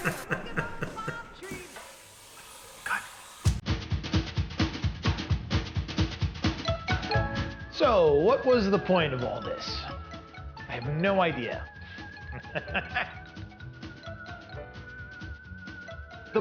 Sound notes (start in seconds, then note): 0.0 both laughing; 3.4 upbeat music; 6.7 happy music; 11.9 laughs; 14.1 happy music